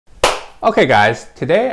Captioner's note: claps